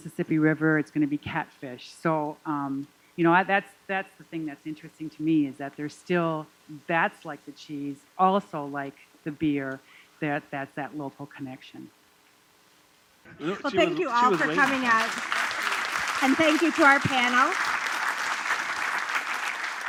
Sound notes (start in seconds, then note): 17.3 applause